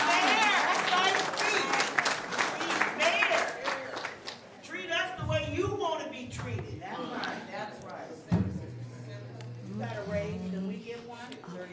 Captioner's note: applause